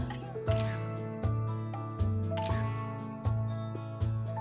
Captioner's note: laughs; camera clicking